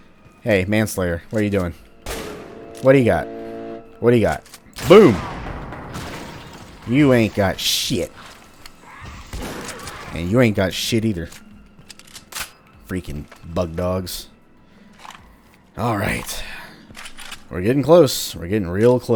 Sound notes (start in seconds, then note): 4.8 bam; 9.2 boom